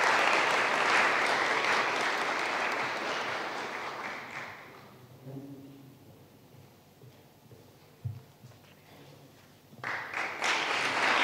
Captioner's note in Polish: oklaski